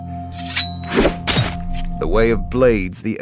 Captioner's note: sword unsheathing and slashing